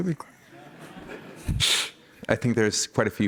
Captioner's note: chuckling